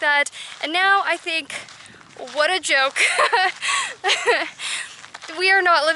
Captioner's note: laughter